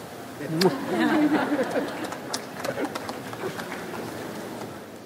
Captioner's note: audience laughs